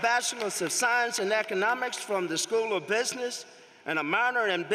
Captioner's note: applause